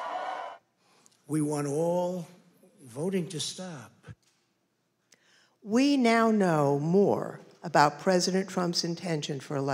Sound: applause

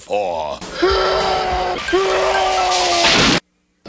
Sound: Tails and Dragon Breath making that same stock scream

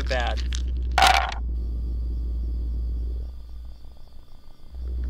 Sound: dice thumping

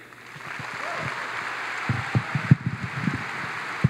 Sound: audience applauds

